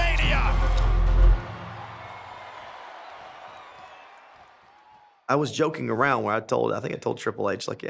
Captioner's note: applause